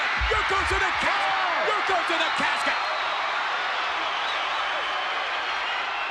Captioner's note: crowd cheers